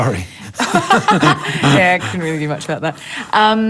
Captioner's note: laughs